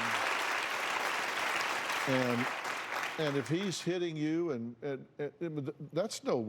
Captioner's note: applause